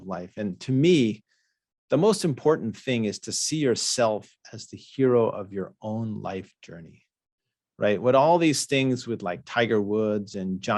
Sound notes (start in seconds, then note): none